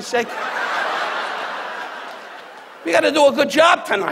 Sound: audience laughs

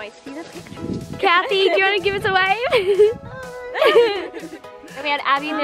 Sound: laughs; laughs

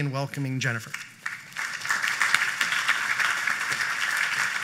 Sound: applause

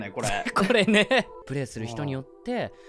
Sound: laughs

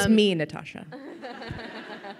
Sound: crowd laughing

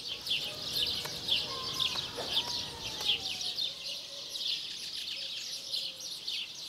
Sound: birds chirping; fingers patting

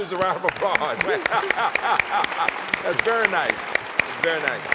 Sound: applause

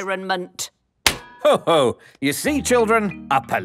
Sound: slaps

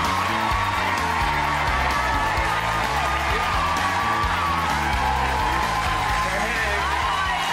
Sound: audience cheering and applauding; upbeat music

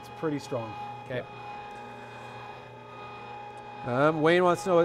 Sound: machine roaring

